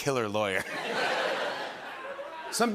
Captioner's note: laughter